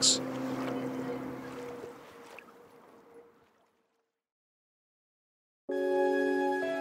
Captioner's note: water sloshing; soft thoughtful music